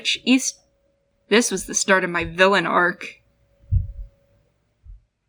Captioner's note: stomp